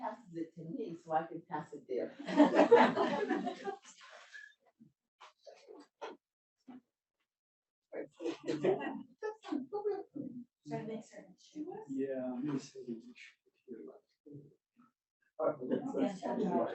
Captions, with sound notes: I'll wait 'til she passes it to me so I can pass it to her. (audience laughs) - Yeah. (presenters chattering)